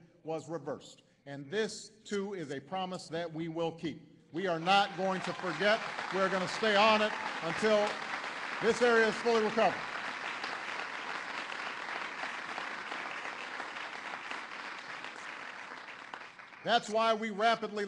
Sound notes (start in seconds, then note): 14.6 applause